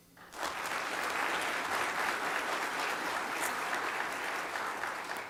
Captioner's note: applause